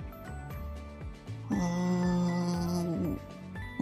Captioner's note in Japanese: 唸る